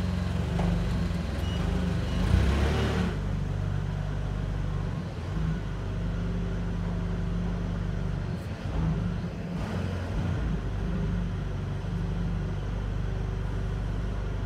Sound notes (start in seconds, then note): 1.7 forklift beeping; 4.0 engine purring